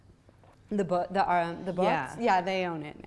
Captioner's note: voiceover